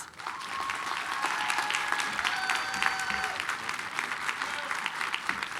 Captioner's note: applause, cheering